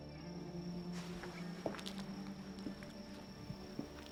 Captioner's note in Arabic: خطوات